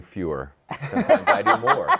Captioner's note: laughter